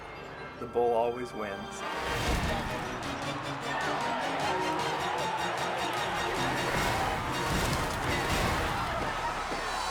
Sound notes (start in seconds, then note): 1.6 tense music; 2.4 crowd cheering